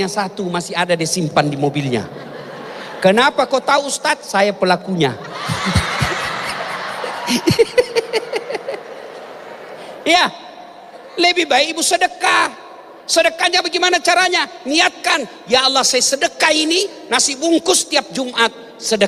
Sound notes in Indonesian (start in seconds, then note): 8.2 tertawa